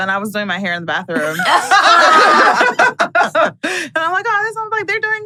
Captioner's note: everyone laughs